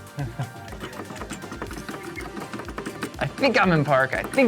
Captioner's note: part tapping